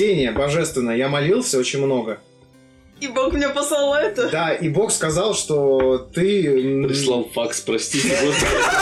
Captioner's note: the table laughs